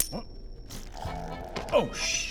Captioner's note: pfffppt